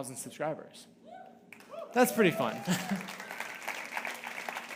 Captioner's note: audience cheering; audience applauding